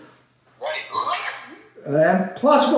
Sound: mimics yelp

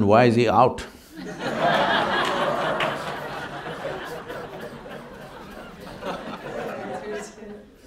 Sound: laughter

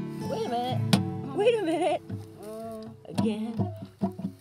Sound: guitar strumming; string popping; cooing

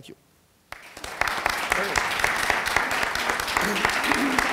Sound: audience applauding

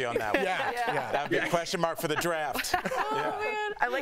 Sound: laughter

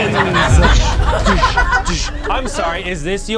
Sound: audience laughs

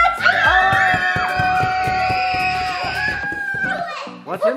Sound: cheers

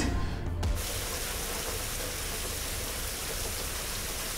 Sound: shower runs

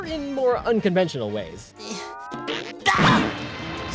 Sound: grunting

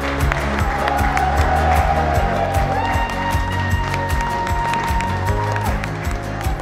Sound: group cheers; group claps; upbeat music

